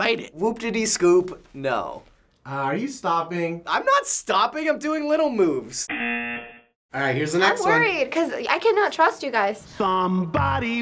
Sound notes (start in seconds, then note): 5.9 buzzer; 10.7 singing along